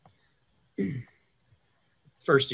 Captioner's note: clears throat